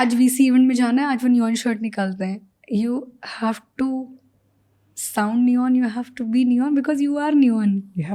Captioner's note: speaks in Hindi